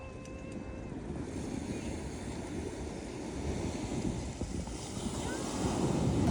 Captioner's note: waves crashing on the beach